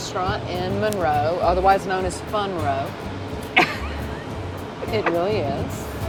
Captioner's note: chuckles